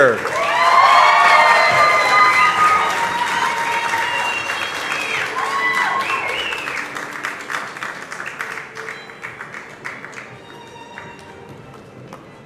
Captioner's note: cheers and applause